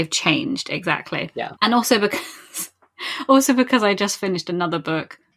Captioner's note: laughing